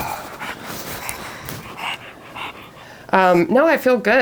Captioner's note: Piggy panting